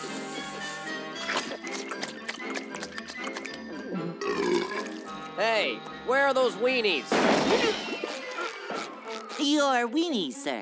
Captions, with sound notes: [belching] Hey, where are those weenies? [groaning] Your weenie's, sir.